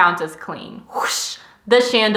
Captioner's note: swoosh